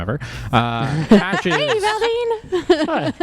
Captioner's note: laugh